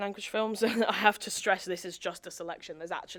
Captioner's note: chuckles